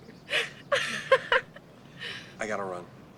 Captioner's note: laughing